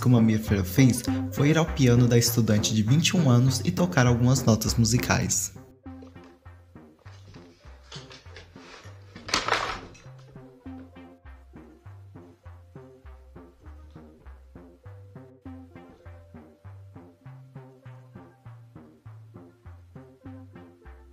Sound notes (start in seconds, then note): 5.6 sounds of bear invaded the house